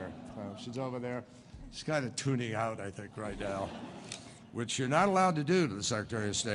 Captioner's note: laughter